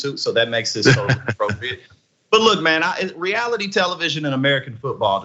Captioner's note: laugh